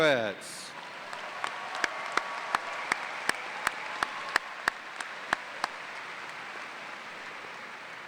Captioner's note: cheers and applause